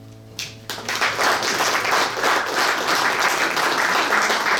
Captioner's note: audience applauds